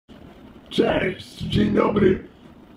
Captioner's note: vocoder sound